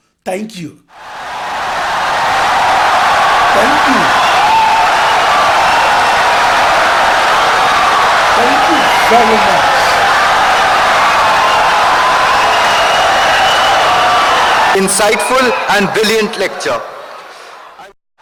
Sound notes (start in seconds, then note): 3.5 wild applause and cheering for 17 seconds